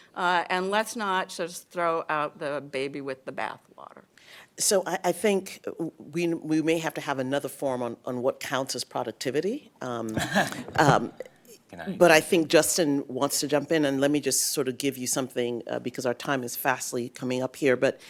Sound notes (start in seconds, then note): 10.1 laughter